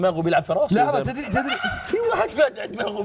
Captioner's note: laughs